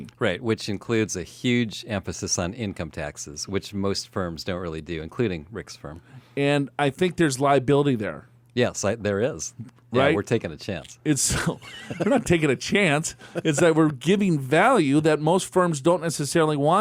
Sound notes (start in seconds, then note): 11.3 laughs